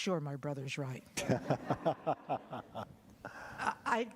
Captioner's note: laughter